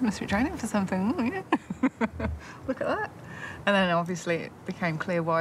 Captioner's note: laughs